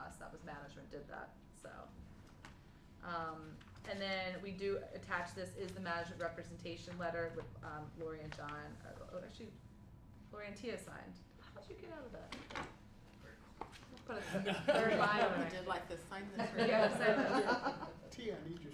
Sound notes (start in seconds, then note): 14.2 laughter